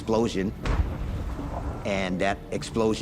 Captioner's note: explosion echoes